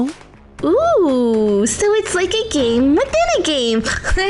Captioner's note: snorts